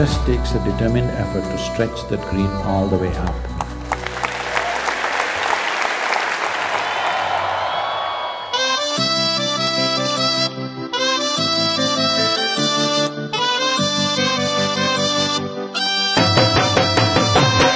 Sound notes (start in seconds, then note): 3.5 applause